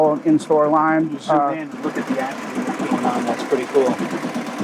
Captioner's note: machine running